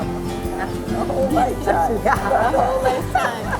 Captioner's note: laughs